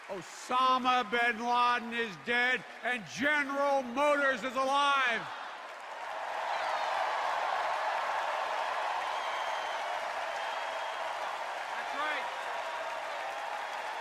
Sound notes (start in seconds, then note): 7.9 cheers and applause